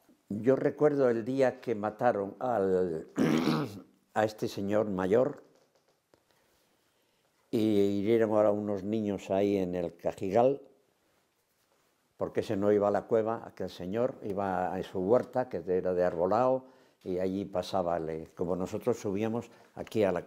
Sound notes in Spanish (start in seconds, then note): 3.1 carraspea